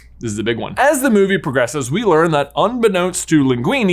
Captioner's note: none